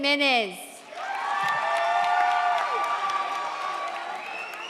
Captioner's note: audience cheers